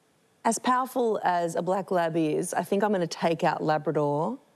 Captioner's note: none